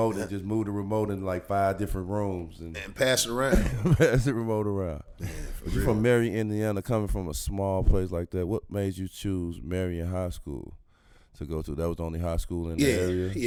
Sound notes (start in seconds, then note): 3.4 laughs